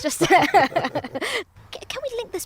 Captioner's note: laughter